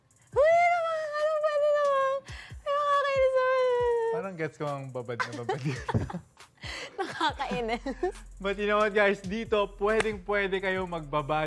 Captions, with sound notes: Gosh, you're melting me! You're so naughty! - I've heard those lines before. - [LAUGHTER] - I'm dead! - But you know what, guys? You can get soaking wet here